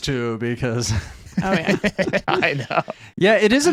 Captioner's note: laughs